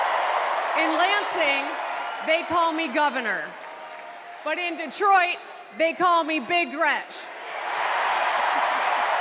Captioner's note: cheers and applause